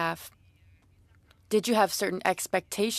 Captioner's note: speaking French